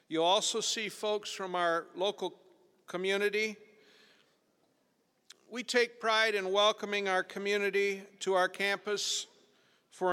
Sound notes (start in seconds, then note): none